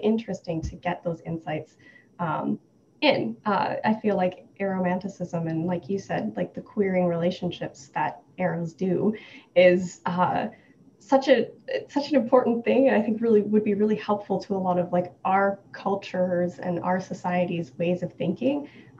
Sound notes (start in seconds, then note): none